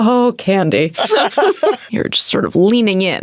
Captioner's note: Candice laughing